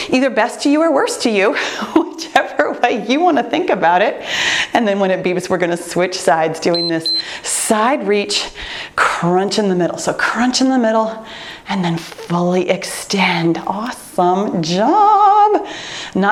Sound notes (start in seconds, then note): 1.9 laughs; 6.7 timer beeps